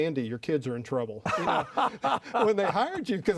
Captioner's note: laughing